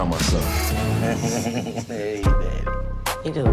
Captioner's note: laughing